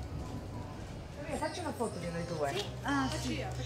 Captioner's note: speaks in Italian